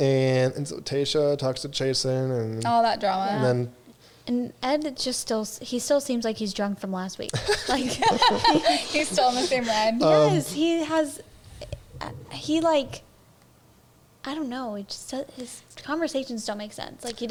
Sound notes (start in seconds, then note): 7.3 all laughing